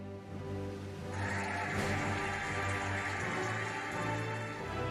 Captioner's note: cheering and applauding